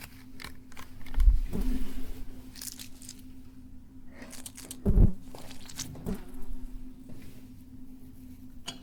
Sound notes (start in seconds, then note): 2.3 flowers squelch